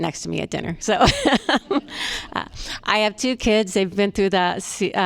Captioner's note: laughter